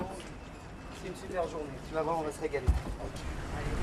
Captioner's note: speaking French